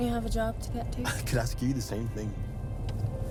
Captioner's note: laughs